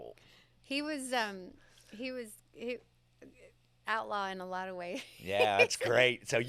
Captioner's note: laughs